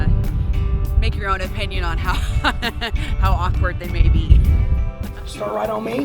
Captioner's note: laughs